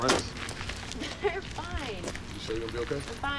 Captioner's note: spits